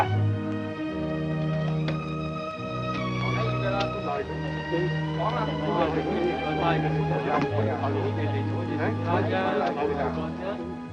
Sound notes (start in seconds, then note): 0.1 speaks foreign language; 6.0 soft chattering in foreign language